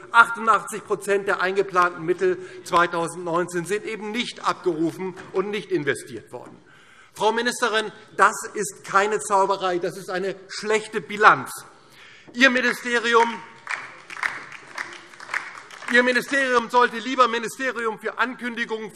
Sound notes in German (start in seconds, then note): 12.5 Beifall DIE LINKE